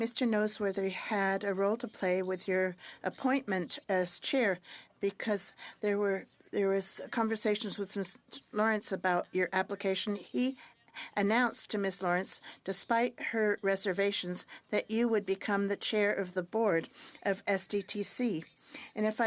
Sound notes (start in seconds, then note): 3.7 speaking French